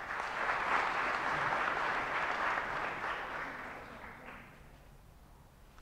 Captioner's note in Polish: oklaski